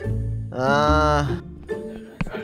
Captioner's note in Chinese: 埋怨声